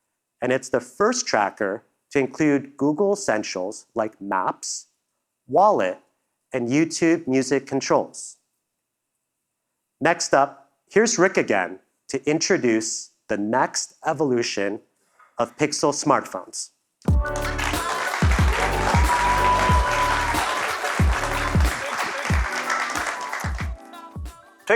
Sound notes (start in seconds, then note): 17.1 applause